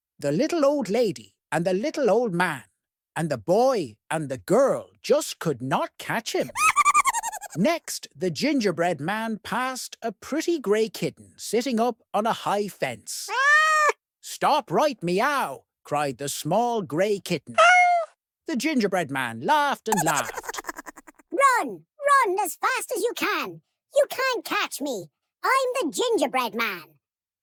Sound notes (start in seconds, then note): 6.4 high-pitched laugh; 13.3 cat meows; 17.8 meows